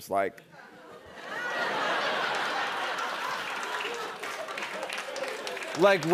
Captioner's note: laughter